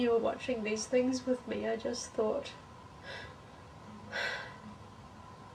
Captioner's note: sighs